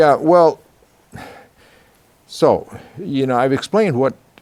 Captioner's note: sighs